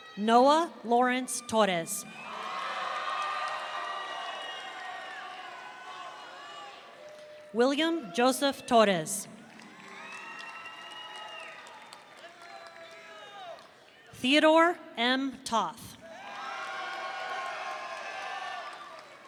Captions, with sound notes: Noah Lawrence Torres. (audience cheering) William Joseph Torres. (audience cheering) Theodore M. Toth. (audience cheering)